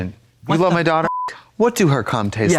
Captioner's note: beep